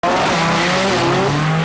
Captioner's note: race car revving engine